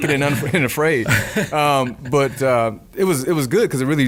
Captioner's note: laughing